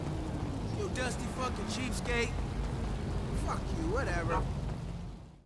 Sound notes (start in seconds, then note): 4.2 bark